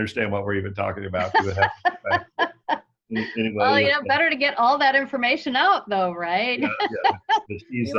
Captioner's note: laughter